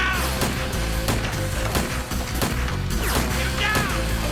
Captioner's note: gun fires